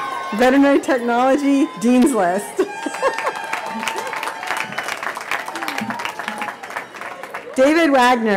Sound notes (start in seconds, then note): 3.2 cheering and Laughter